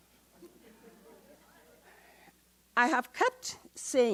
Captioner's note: audience chatter